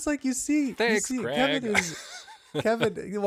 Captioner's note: laughing